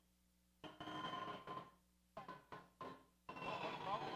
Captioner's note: audio distorts